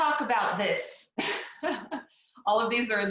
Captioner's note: laughs